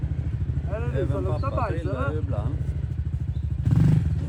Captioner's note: wind